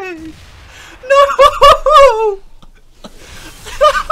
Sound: breaks down laughing; laughter ensues

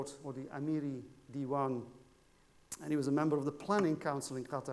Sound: speaking foreign language

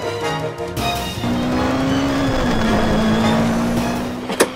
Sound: car's engine revving

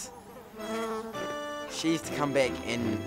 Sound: fly buzzing

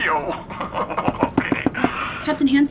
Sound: both laugh; knocking

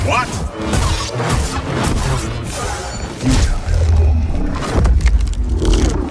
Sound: lightsabers buzzing and crackling

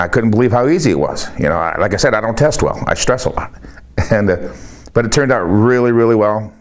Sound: chuckles

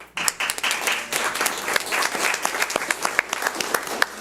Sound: audience applauds

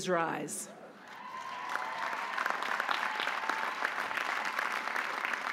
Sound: audience applauding

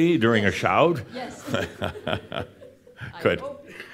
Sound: they chuckle

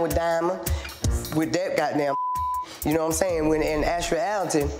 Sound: beep

